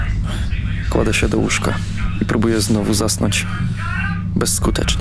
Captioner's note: sound of internet distortion